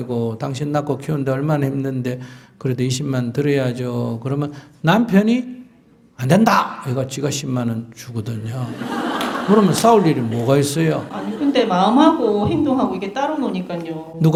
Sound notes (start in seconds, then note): 8.6 audience Laughter